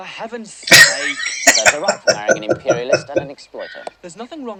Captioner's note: laughing